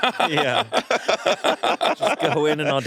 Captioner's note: all laughing